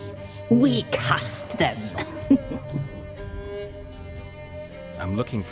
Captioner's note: sinister chuckle